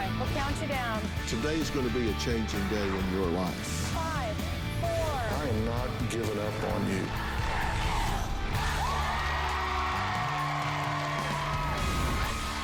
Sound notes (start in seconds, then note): 8.9 crowd chanting "dr. phil!"; 11.6 cheering and applause